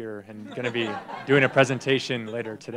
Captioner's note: laughter